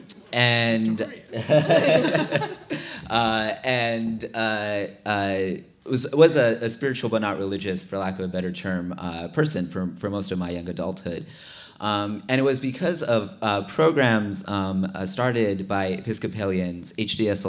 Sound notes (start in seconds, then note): 1.2 laughter